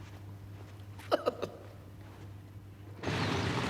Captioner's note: nervous laugh